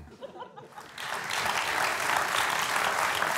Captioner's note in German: Applaus